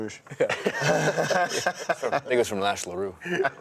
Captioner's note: laughs